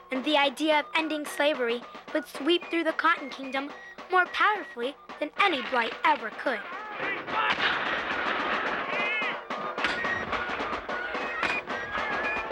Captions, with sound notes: and the idea of ending slavery would sweep through the Cotton Kingdom more powerfully than any blight ever could. (guns and cannons firing) (flute and drum music)